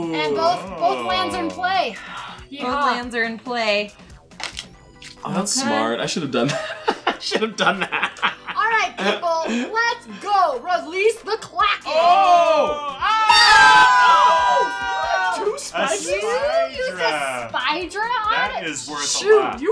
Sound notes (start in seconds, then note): 0.0 gasps; 13.4 shouting